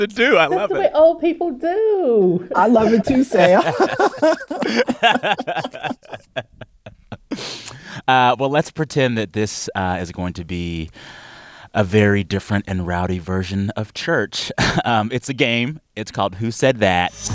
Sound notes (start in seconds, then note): 6.5 laughter